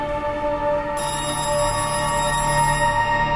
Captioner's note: phone ringing